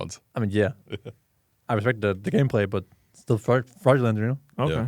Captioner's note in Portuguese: risos